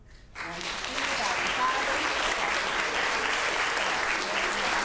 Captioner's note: audience applauds